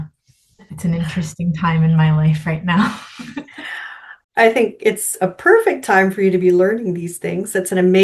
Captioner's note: laughs